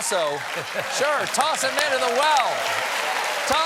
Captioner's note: applause